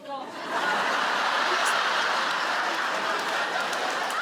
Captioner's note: audience laughs